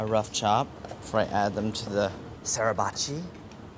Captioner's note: speaks in foreign language